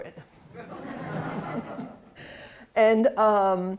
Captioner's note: laughter